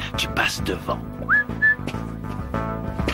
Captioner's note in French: sifflement